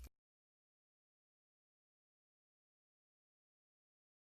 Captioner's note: silence